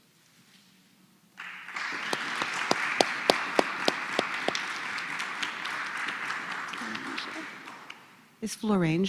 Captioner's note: applause